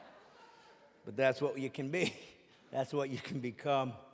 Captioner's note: audience laughing